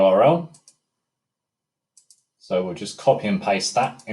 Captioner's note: mouse clicking